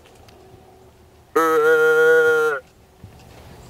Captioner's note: blowing grunt call